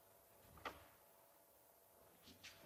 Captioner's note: door closes